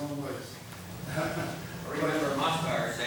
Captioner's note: laughs